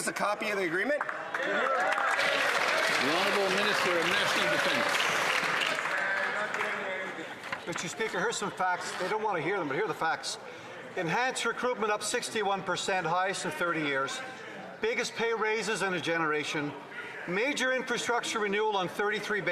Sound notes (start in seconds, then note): 7.0 some Applause